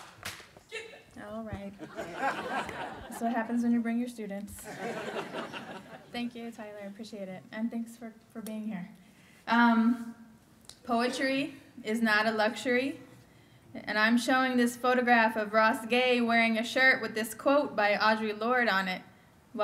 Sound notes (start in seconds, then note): 1.7 laughter; 4.6 laughter